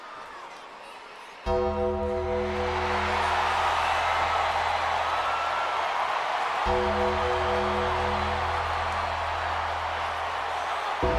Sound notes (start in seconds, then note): 1.6 gong rings; 3.2 crowd cheers